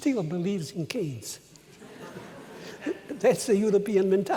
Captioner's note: laughter